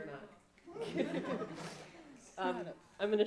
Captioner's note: laughing